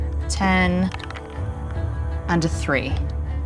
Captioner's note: die rattling